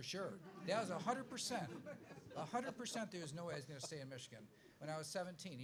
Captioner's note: laughs